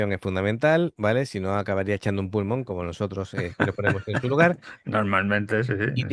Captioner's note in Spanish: risas